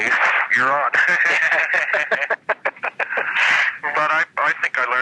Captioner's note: both laughing